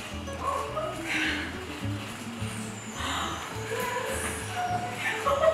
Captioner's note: surprised, joyous laughter